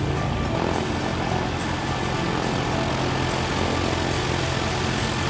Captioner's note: plane passing; bright music